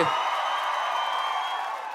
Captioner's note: audience cheers